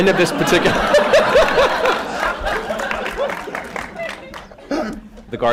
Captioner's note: laughter